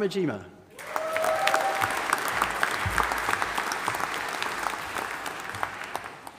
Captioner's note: audience applauding and cheering